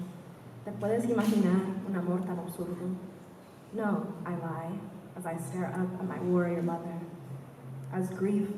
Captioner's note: spanish